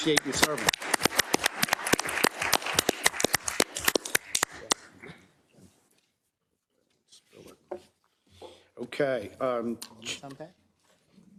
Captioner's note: applause